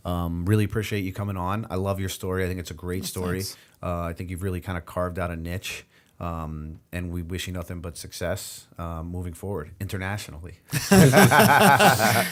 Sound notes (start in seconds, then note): 10.7 laughter